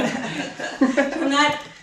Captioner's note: laughing